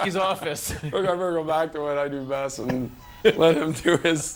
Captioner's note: laughter